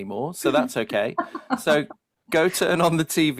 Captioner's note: laughs